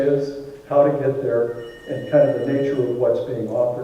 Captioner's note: phone ringing